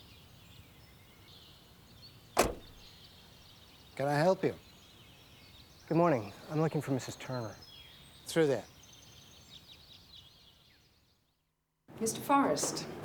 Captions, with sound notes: (birds chirping) - Can I help you? - Good morning. I'm looking for Mrs. Turner. - Through there.